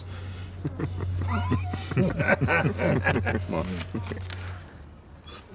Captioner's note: laughing